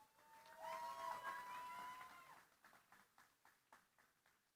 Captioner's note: cheering, applause